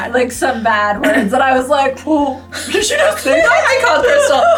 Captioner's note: laughs; laughs; exclaims